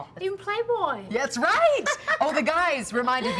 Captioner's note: laughing